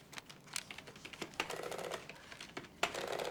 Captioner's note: clacking